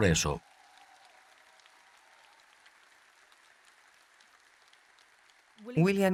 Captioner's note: audience applauding and cheering